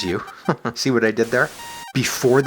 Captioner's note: chuckles